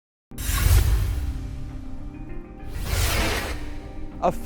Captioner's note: scene swooshing